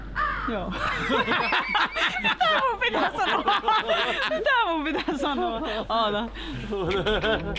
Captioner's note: laughter